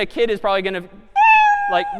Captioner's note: meow